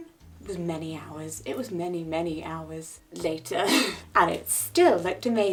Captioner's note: chuckling